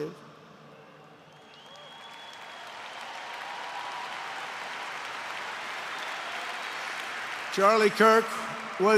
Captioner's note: applause